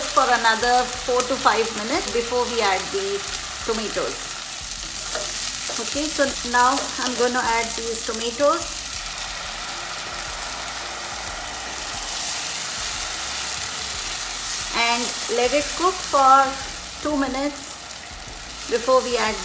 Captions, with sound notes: for another four to five minutes before we add the tomatoes. Okay so now, I'm gonna add these tomatoes. (pan sizzles) And let it cook for two minutes before we add